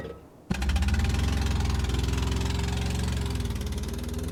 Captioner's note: engine revving